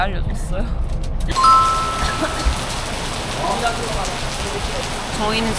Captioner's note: Heavy rain in Ho Chi Minh